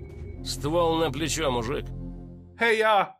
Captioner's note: something in Russian